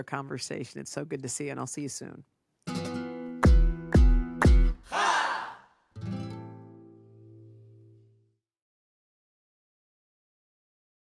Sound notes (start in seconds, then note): 2.6 hands clapping; 2.6 bright Spanish guitar music; 5.9 bright Spanish guitar music